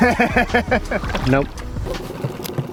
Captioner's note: laughing